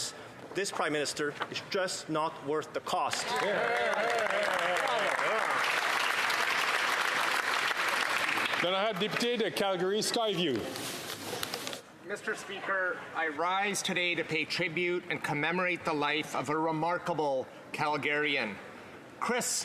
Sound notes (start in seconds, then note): 10.0 some Applause